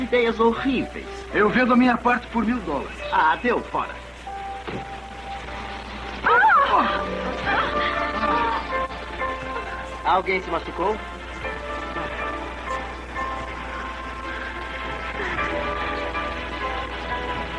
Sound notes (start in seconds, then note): 5.2 grunts; 5.2 woman Gasps